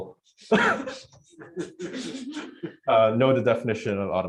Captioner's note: laughter